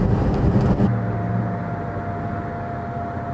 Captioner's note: engine, electric fan noise